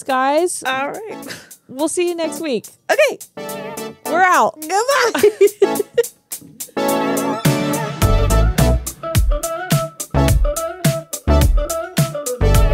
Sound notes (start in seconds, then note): 5.0 laugh; 7.2 funky pop music